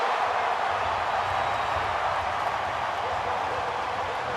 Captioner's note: crowd cheering